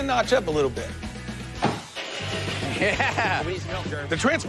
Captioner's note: engine starts